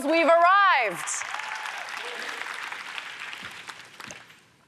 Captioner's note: applause